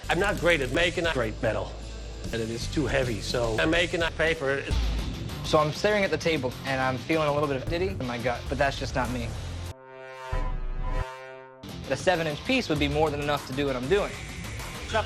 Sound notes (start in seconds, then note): 9.8 among us reveal noise, reversed